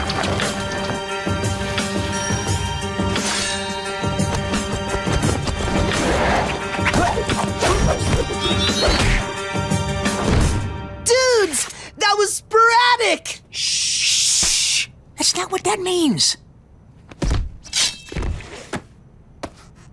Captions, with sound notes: [clanking] [grunting] Dudes! That was sporadic! Shh! Shh! That's not what that means!